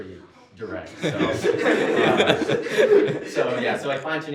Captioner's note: laughter